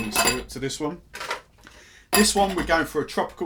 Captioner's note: ice clinking